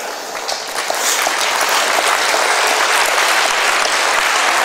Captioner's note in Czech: potlesk